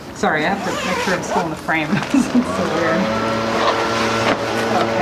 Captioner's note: zipping